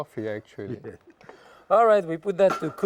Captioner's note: laughs